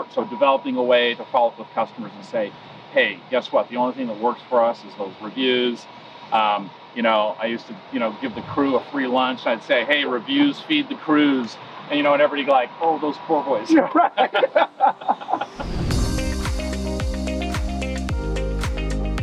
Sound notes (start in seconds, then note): 13.7 laughs; 16.3 upbeat music